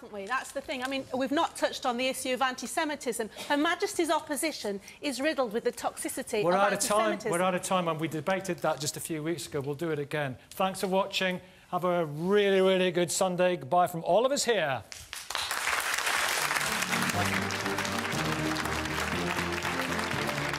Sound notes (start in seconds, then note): 15.1 audience applauds